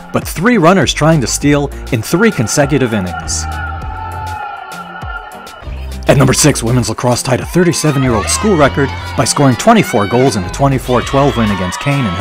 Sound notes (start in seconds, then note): 3.2 crowd cheers; 3.2 mid-tempo instrumental music